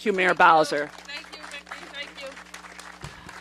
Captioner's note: applause